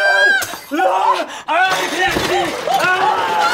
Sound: scream; glass shatters

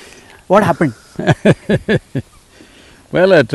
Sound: Sadhguru laughs

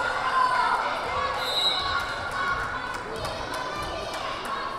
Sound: whistle blaring

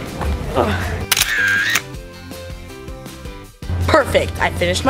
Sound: camera clicks

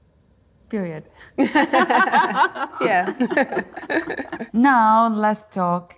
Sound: laughing

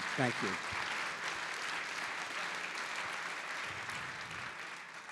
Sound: audience applauding

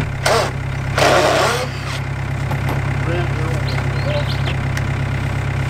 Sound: impact Driver Screwing

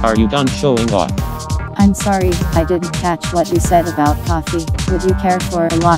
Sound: female robot voice

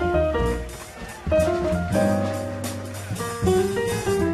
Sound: audience applauding

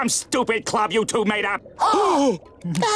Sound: gasping; laughing

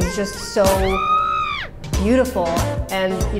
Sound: screaming

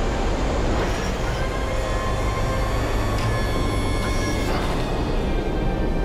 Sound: mechanical whirring

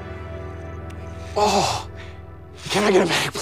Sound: groan

